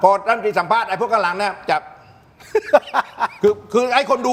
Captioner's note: laugh